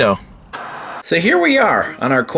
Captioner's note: TV static